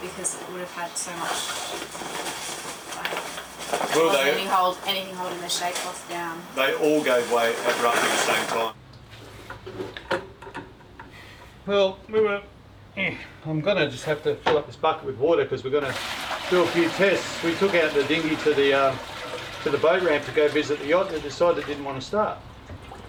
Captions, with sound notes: because it would have had so much... Wouldn't hold, anything holding the shape what's down. - They all gave way. Every one in the same time. Well move up (grunting). I'm gonna just half to fill up this bucket with water 'cause we're gonna fill a few tests. We took out the dingy to the boat ramp to go visit the yacht and saw that didn't want to start.